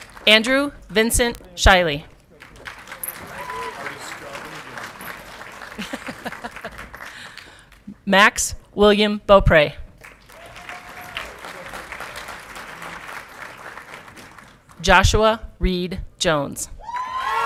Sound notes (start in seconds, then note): 2.1 audience clapping and cheering; 6.1 laughing; 9.9 audience clapping; 16.8 audience clapping and cheering